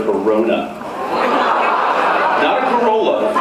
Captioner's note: laughs